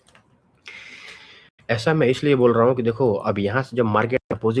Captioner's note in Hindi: नाक से की जाने वाली आवाज़